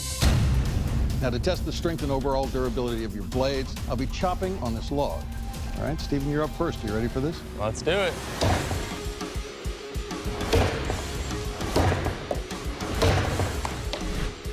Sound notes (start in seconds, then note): 8.4 chopping